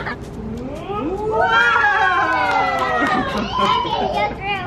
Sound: clapping

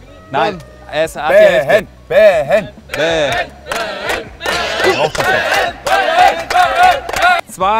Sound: all chanting his name

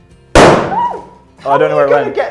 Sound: balloon pops

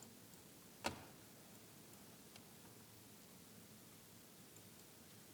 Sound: mouse clicking

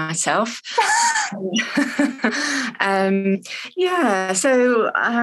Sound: laughing

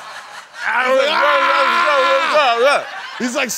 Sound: shouting

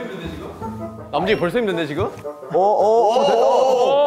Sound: kekeke

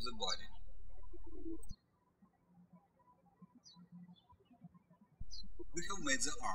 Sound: birds chirping

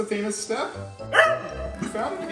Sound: Oliver barks

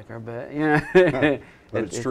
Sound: chuckles

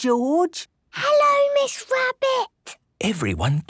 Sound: whispering

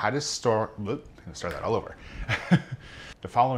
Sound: chuckles lightly

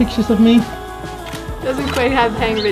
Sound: click

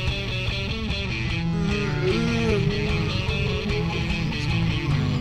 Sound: zombie groaning

